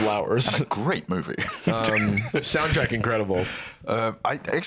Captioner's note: laughs